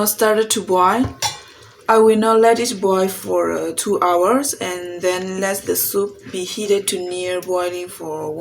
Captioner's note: simmering